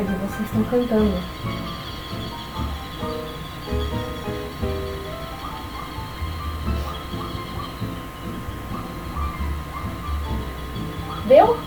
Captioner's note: more chirping